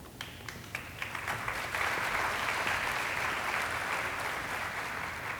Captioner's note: audience applauding